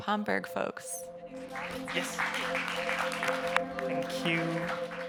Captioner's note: audience members applauding